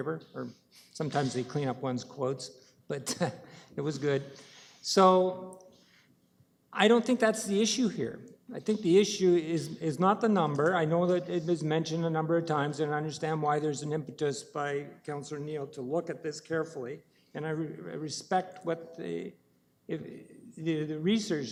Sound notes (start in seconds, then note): 3.3 chuckles